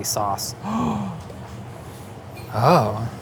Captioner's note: gasps